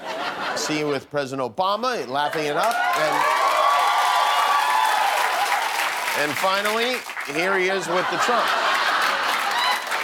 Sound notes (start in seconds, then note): 2.2 cheers and applause; 9.8 laughter